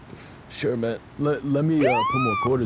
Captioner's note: σειρήνες αστυνομίας